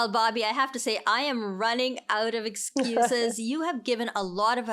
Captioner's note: laughs